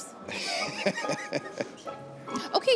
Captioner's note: laughter